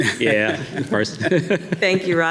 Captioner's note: laughs